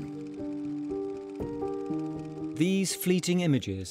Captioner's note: gentle music; camera flickering